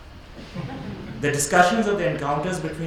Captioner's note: audience laughs